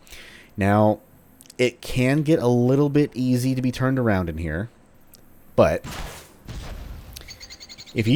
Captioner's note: fwoosh